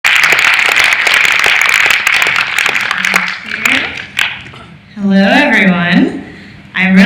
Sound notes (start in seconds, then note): 0.0 audience applauding